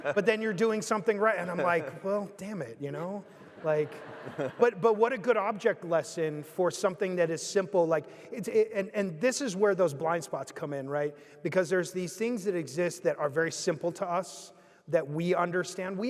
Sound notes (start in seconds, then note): 0.0 group laughing; 3.2 audience laughing